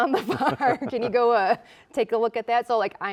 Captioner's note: both chuckling